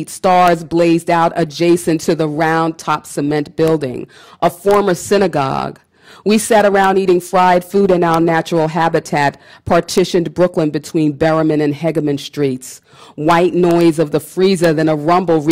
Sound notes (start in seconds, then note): none